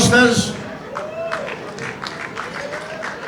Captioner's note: audience applauds